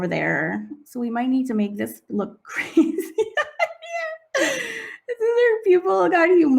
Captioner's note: laughing